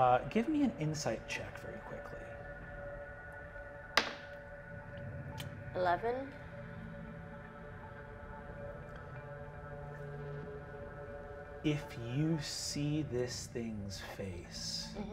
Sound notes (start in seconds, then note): 2.7 eerie haunting music continues; 4.0 die taps table